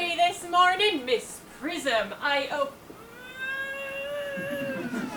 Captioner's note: groans